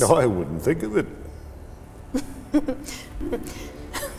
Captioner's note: laughs